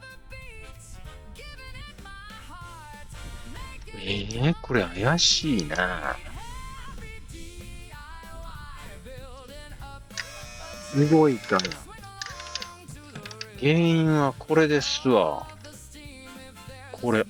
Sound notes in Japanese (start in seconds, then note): 7.2 ケーブルの先に直接電源を繋ぐ フロートスイッチを手で動かす ポンプの動く音